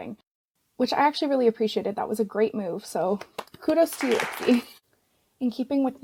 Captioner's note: clapping